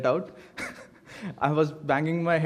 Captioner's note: laughs